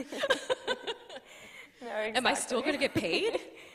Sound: chuckles

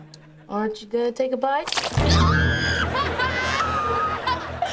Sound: screaming

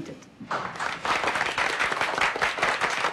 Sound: clapping

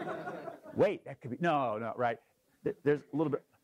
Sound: laugh

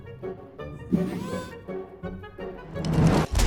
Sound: robot noise

